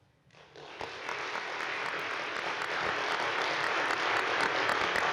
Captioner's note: audience applauding